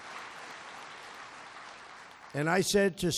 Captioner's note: applause